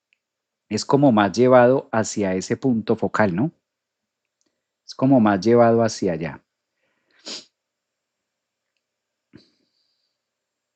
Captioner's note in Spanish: resoplido